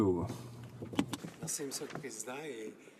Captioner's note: speaking French